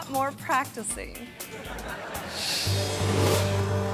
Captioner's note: audience laughing; adventurous music